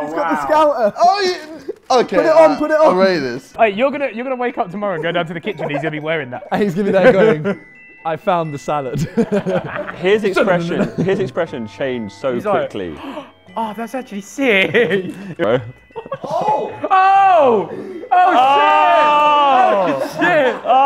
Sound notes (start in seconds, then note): 8.9 laughs; 12.9 gasps; 14.5 laughs